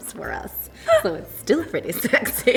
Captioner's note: laughter